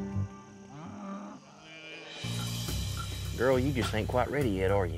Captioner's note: cows mooing